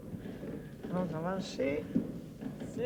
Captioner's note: speaking French